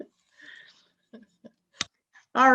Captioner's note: laughs